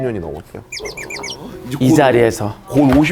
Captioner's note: gasp